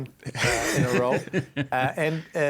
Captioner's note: laughing